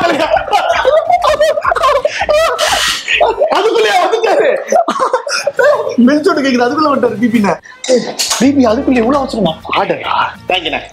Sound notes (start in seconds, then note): 0.3 beats; 4.5 laughs